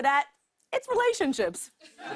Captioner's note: laughter